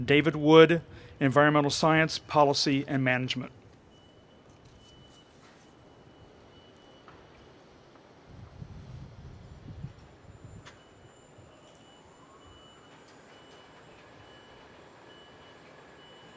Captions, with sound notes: David Wood, Environmental Science, Policy, and Management, (wind rustling)